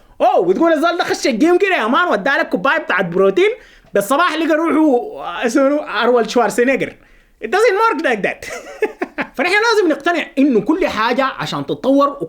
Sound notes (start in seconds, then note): 8.4 laughter!